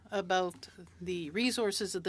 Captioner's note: speaking French